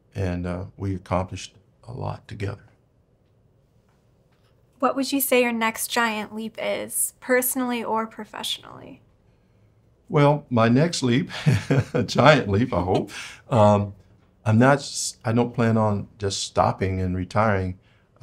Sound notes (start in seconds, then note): 11.3 laughs; 12.6 chuckles